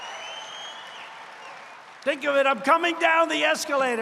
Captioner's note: applause